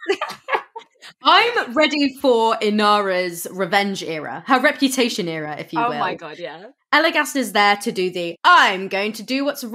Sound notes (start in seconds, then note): 0.0 laugh